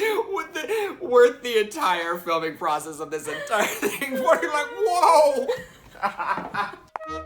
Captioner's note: laughs, voice